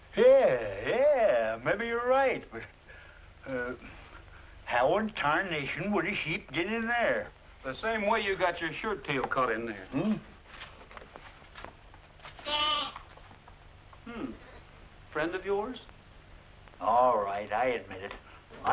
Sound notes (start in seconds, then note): 12.4 bleating